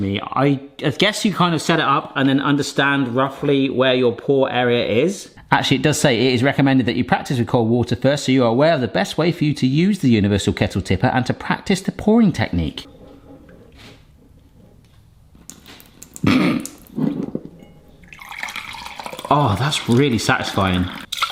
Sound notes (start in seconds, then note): 18.2 water pouring